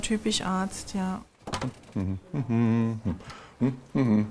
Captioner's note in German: Er summt fröhlich